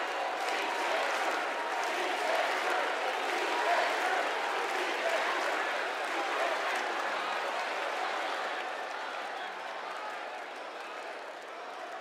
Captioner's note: cheers and applause